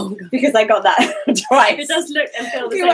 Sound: laughing

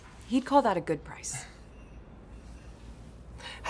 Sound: none

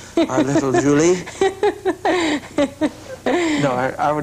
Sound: laughter

